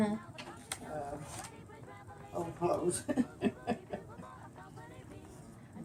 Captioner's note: laughs